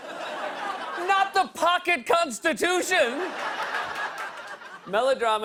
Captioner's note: laughter; laughter